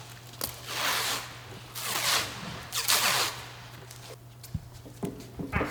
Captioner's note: plastic wrap squelching